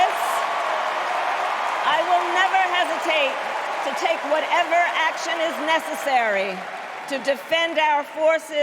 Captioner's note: cheers and applause